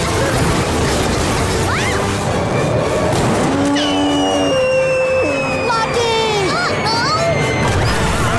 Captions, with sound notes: Whoa! [popping, mooing] - Lucky! - Uh-oh!